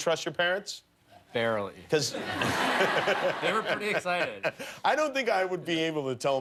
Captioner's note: laughter